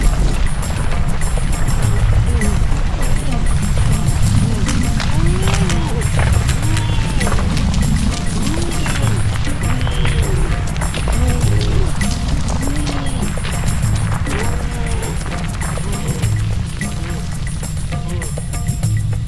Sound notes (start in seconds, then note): 5.8 Og grunting; 11.3 light upbeat music continues